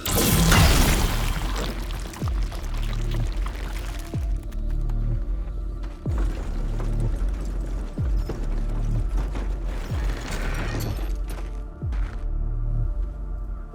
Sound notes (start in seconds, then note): 0.0 magic whooshing; 0.2 squelching; 4.0 suspenseful music; 6.0 cart rattling